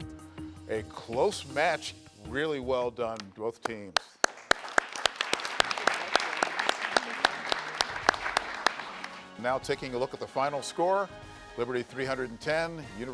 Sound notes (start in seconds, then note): 5.8 everyone applauding